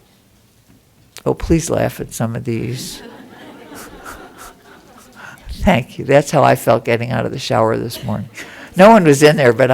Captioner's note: laughter